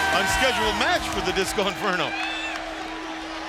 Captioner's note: bell ringing